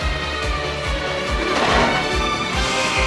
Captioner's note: trash bin sound